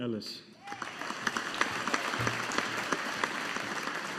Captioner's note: audience applauding